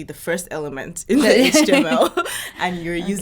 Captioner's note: laughing